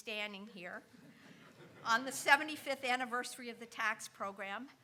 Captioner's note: audience chuckling